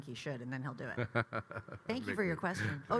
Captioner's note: Kyle laughing